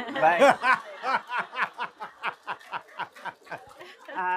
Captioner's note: laughter